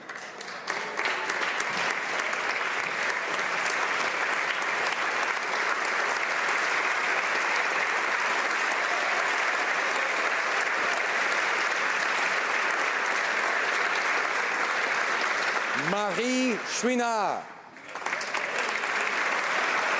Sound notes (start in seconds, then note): 4.5 applause